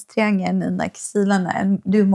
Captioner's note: speaking in foreign language